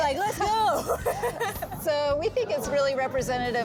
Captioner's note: both laughing